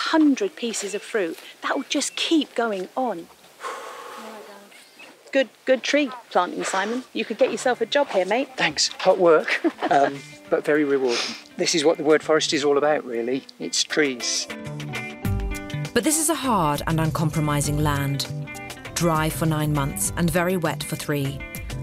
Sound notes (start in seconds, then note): 3.6 heavily exhales